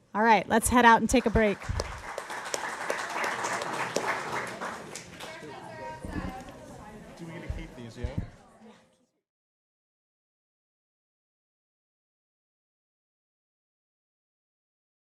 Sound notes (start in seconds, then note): 3.5 applause